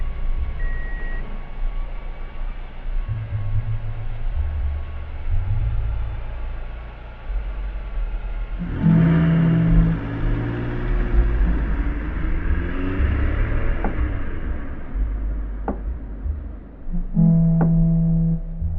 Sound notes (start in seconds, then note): 9.4 car pushes away; 14.3 tense music rises